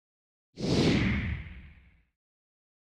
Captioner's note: swoosh